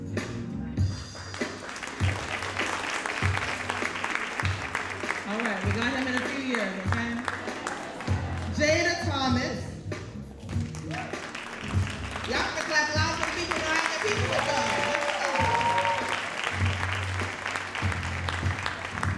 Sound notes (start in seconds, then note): 0.9 audience applauding; 10.7 audience cheering; 11.2 faintly speaking